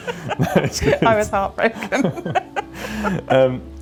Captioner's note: laughing